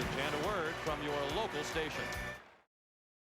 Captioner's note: applause